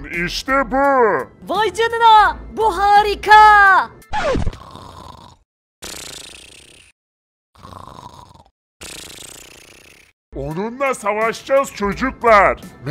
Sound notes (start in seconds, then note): 4.6 snoring sound